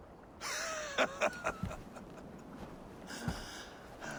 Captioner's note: laughs